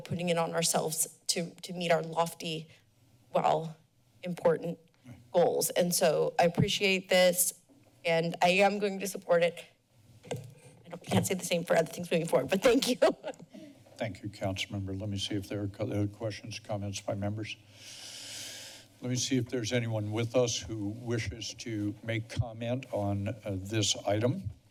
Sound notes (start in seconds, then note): 12.7 laughs